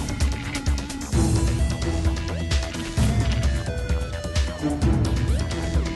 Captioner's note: static and music